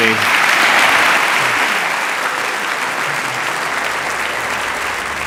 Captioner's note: applause